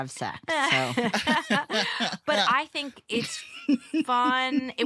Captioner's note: laughter